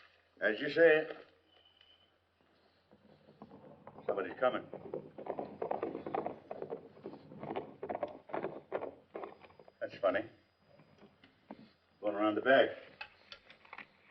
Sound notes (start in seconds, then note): 2.9 horse galloping